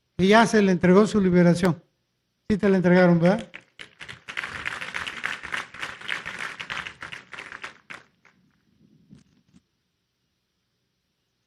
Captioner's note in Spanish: aplausos